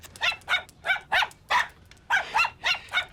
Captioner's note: yapping; puffy keeps yapping